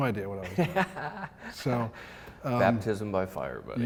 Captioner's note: laughs